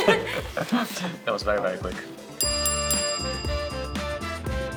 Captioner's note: both laugh; bell dings